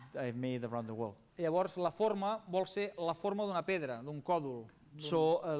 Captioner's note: non-english speech